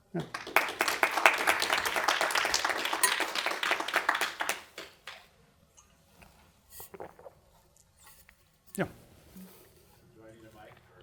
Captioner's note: applause